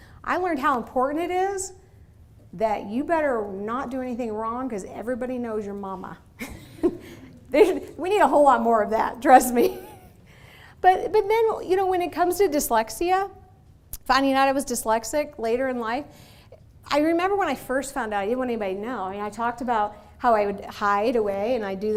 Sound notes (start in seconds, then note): 7.0 laughing